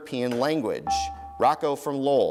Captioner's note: dinging